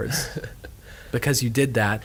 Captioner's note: laughing